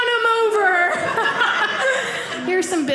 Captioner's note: audience laughing